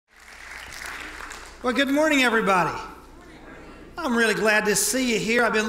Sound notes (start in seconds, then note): 0.0 audience clapping